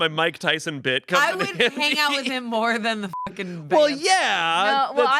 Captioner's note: beep